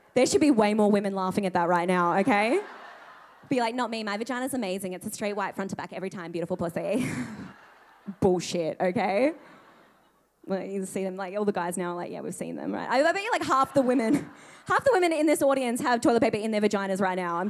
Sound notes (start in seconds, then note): 2.2 audience laughing